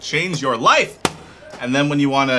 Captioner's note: keyboard slap